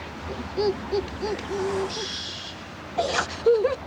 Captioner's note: cries